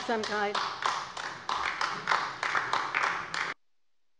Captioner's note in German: Beifall bei der LINKEN